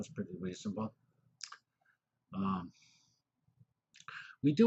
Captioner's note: pause